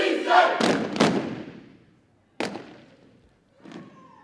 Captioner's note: indistinct chanting; boots thumping